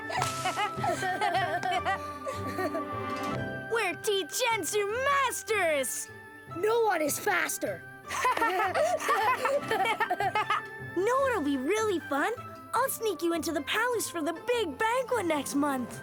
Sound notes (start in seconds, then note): 8.0 both laugh